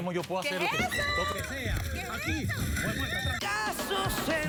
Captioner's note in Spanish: gritos y exclamaciones